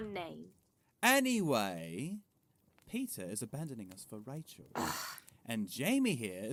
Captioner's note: Peter groans